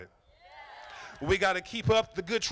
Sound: crowd

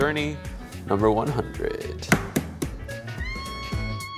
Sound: egg cracking

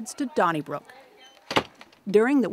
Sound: car door slams

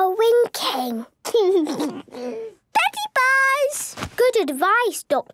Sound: laugh

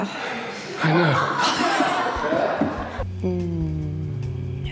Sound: crew laughing; sighs

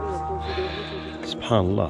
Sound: sighs

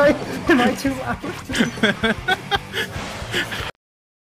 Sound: laughing

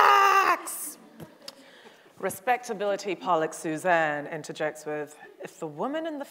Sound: audience chuckles

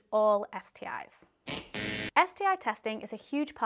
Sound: buzzer buzzing

